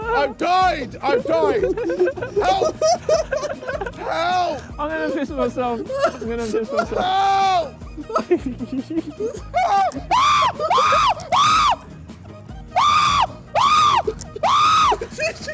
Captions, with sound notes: I've died! I've died! (laughs) Help! Help! - I'm gonna piss myself, I'm gonna piss myself. - Help! (screams shrilly)